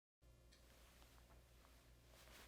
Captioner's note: cloth rustling